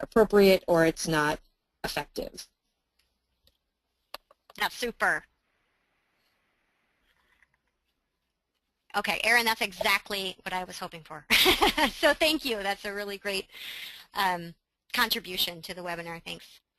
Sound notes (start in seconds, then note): 12.0 laughing